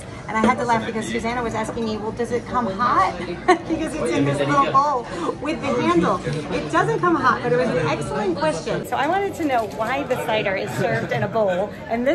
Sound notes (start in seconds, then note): 3.2 giggle